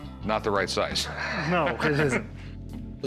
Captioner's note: laughs